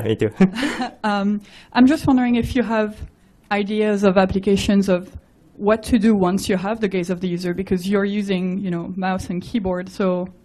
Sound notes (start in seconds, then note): 1.2 woman's Voice